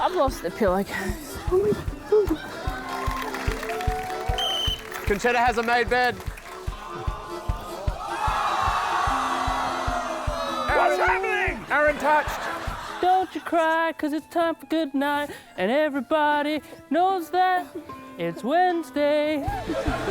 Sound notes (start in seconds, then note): 4.3 blows whistle; 8.4 audience groans